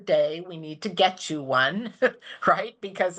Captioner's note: laughs